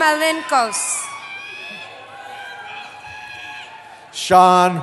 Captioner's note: cheering